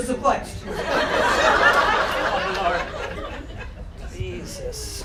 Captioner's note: audience laughter